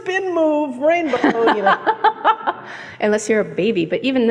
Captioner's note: laughs